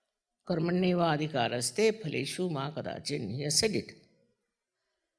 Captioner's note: marathi